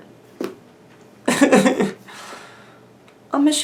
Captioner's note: cries